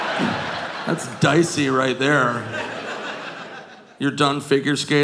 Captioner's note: audience laughing